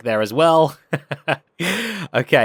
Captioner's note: laughs